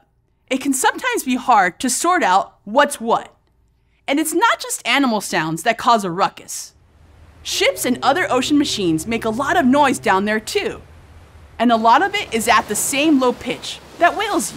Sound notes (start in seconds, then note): 10.5 air horn